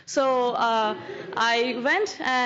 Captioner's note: laughter